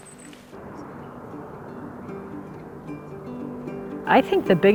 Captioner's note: fire crackling slowly; helicopter engine whirring